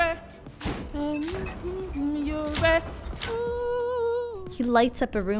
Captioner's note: humming